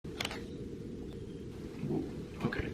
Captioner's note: zoom/Focus noise